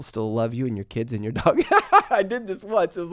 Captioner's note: laughs